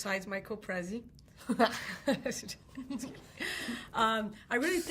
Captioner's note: hearty laughing